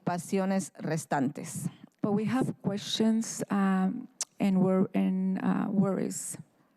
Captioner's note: speaking in spanish